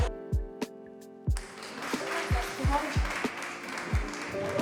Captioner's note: clapping